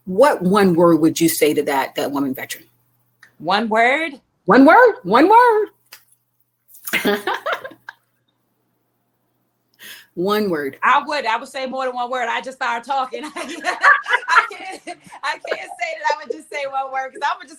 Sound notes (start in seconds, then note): 6.9 laughing; 13.2 ladies laughing